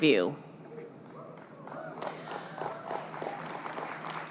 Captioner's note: applause